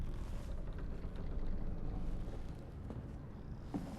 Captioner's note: creaking timbers